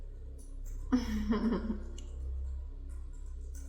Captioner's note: laughs